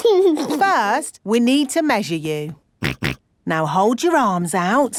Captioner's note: snorts